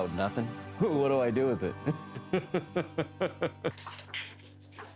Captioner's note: laughter